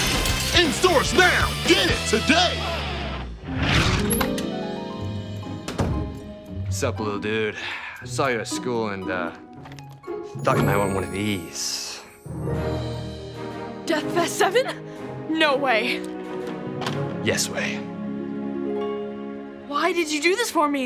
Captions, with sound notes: In stores now. Get it today. [door shutting] What's up, little dude? I saw you at school, and, uh... thought you might want one of these. Deathfest Seven. No way. Yes way. Why did you do this for me?